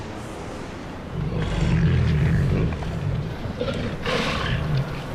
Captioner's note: growling